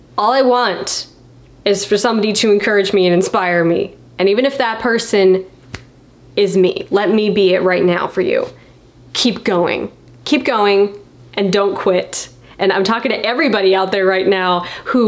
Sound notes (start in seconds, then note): none